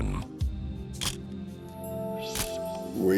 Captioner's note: camera shuttle click